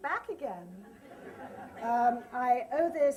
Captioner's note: laughter